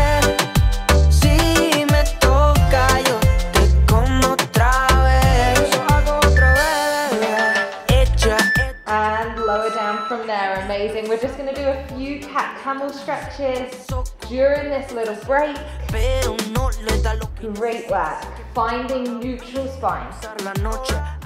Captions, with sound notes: (timer beeping) And lower down from there. Amazing. We're just going to do a few cat camel stretches during this little break. Great work finding neutral spine,